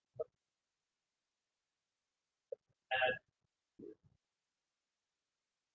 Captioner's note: man speaks through warped and choppy audio